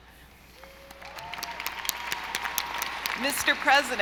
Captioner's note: audience applauding